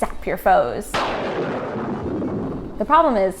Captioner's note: thunder crashes